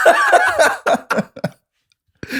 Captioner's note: laughter